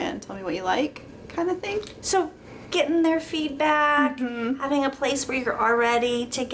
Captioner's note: mhmm